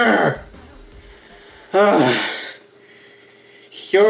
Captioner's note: sigh